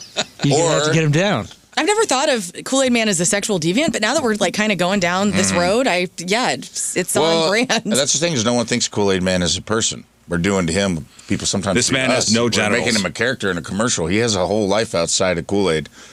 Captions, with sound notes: [LAUGHS] Or-- You have to get him down. I've never thought of Kool-Aid man as a sexual deviant. But now that we're kind of going down this road, I-- yeah, it's all over. Well, that's the thing is no one thinks a Kool-Aid man is a person. We're doing to him people sometimes-- This man has no generals. We're making him a character in a commercial. He has a whole life outside of Kool-Aid.